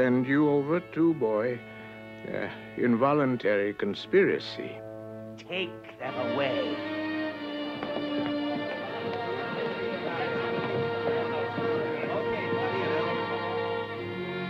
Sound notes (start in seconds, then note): 5.8 all murmuring; 5.8 dramatic orchestral music